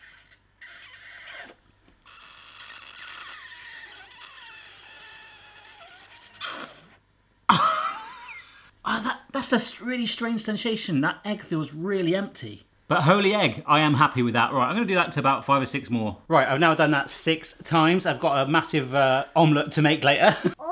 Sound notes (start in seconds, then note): 0.1 blows; 7.5 laughs